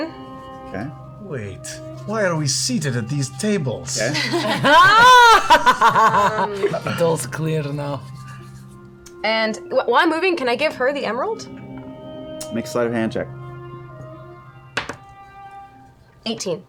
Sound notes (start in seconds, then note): 4.1 laughter